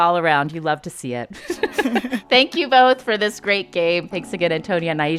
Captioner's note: laughter